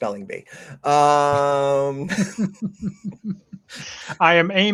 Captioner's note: laughing